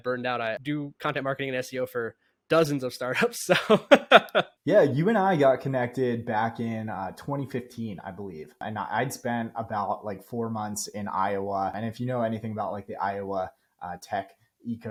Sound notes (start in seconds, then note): 6.1 speaking